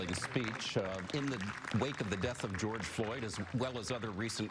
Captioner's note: applause